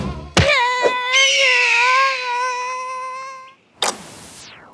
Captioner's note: Derp screams!; eagle screaches; TV clicks, powers down